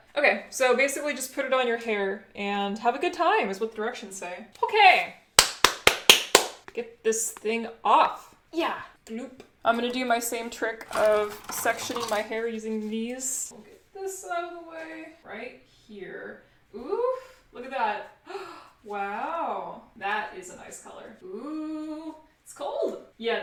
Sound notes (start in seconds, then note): 5.4 clap clap clap clap; 18.3 gasp